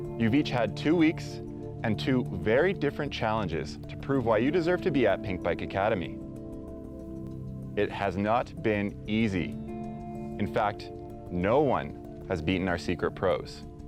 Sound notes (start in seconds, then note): none